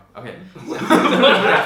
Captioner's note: laughing